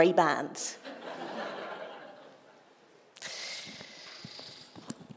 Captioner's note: audience laughter